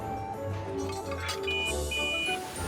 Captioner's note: whistle toots